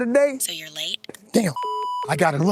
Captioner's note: beep